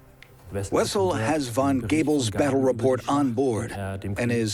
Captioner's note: in German